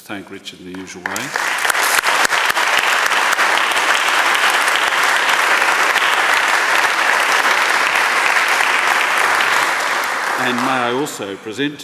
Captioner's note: applause